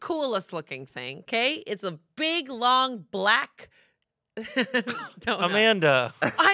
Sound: laughs

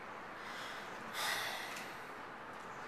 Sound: exhale

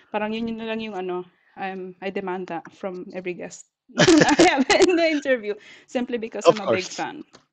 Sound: laughs

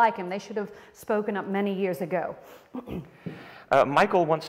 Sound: clears throat

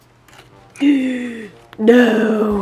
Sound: gaspp

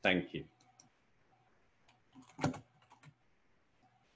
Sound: keyboard clicking

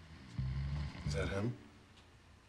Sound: snoring

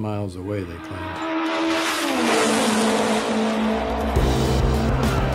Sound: engine roars; upbeat music

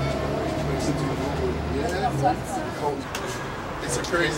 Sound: passing engines whirr, indistinct banter

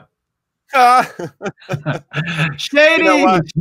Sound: laughs

